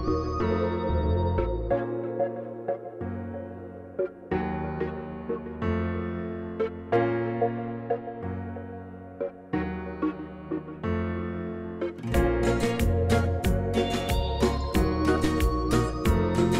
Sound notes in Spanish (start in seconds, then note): none